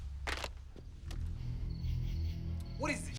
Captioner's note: phone thuds